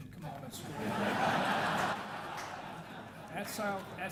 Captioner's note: audience laughing